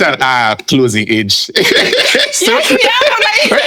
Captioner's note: laughing